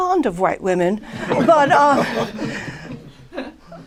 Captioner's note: laughter